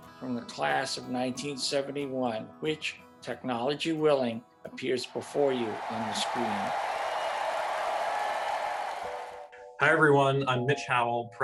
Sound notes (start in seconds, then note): 6.8 audience cheering